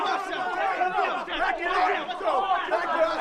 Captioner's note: crowd chatter